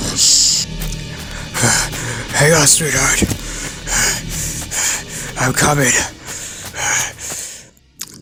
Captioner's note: breathing heavily